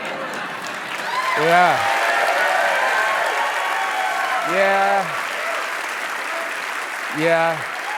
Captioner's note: applause